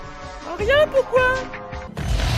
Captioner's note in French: voix cruche